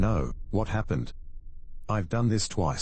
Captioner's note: electrical noise